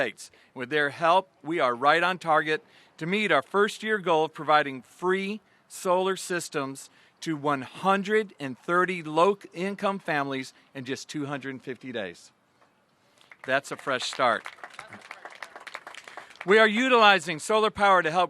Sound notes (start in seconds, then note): 13.2 applause